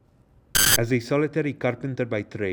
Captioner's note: static crackling